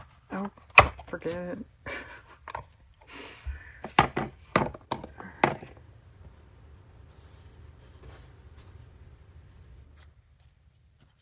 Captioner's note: laughs